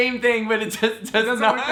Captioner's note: laughs